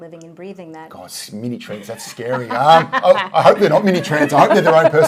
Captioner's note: laughing